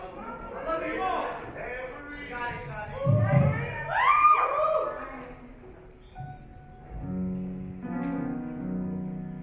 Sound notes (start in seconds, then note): 3.0 audience cheer; 5.2 gentle piano music